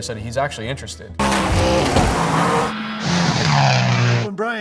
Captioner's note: engine Revving